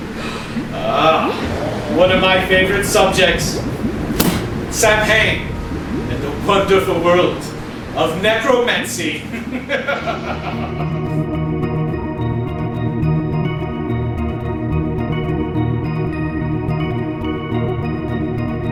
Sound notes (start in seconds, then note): 9.2 laughing; 10.7 eerie music